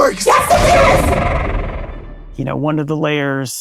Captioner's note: echoing